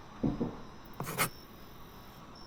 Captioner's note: pencil on paper